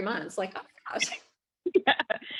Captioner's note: laughing